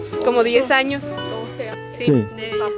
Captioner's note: in Spanish